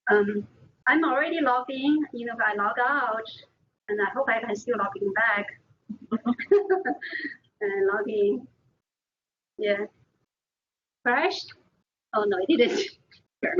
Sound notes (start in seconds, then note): 6.0 laughing; 13.3 all laughing